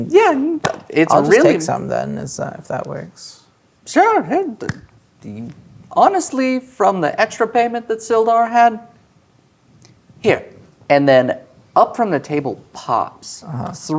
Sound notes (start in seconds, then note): 4.7 claps hands